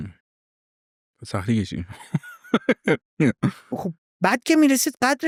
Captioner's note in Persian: خنده